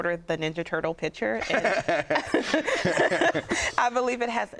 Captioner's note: laughter